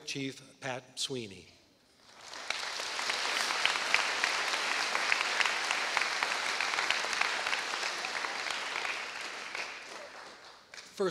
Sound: applause

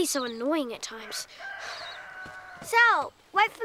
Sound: rooster crows

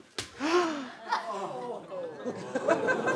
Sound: gasping; laughter

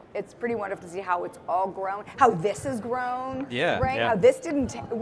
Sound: none

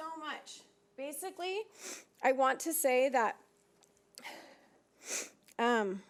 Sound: sniffling

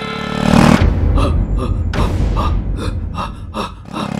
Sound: panting

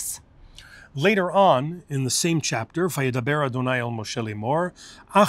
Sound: Hebrew

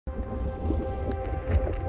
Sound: calm music; liquid bubbling

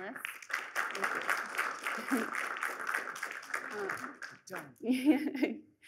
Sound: applause; laughs

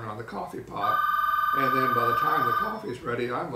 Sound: ringing

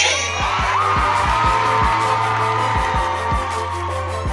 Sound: cheering and applause

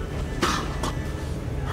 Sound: cough; cough cough

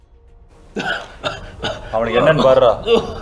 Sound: Nirmal coughs

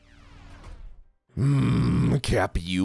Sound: angry noises

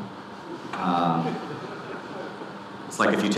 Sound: audience laughing

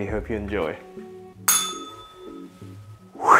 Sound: bell rings

